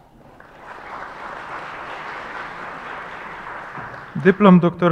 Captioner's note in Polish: oklaski